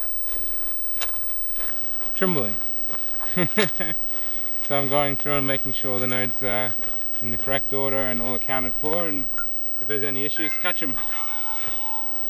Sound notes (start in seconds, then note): 3.4 laughs